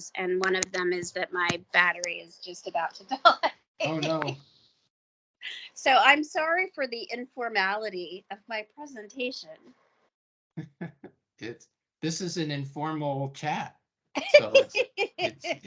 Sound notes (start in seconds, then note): 3.8 chuckling; 10.6 laughing; 14.2 laughing